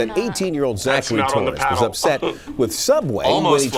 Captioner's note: laughs